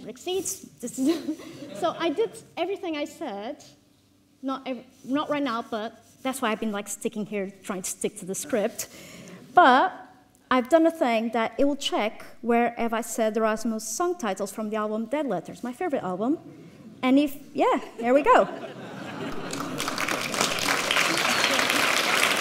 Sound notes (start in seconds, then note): 1.0 all laughing; 18.1 audience laughs; 19.2 audience claps